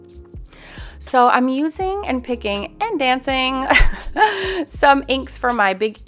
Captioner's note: chuckles